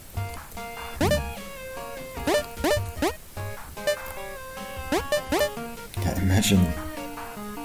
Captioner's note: gravity line pings